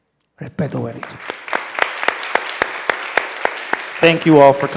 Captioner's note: people clapping